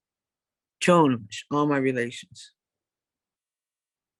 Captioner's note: speaks in native language